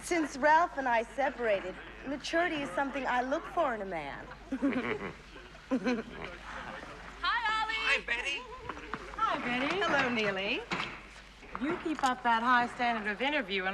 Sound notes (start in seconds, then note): 4.4 Оба хихикают